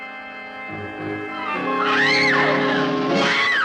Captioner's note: screams